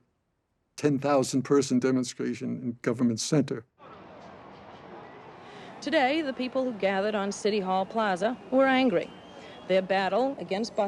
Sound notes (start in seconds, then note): 3.7 people talking in background